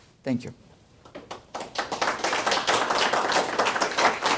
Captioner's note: applause